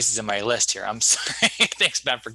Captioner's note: laughing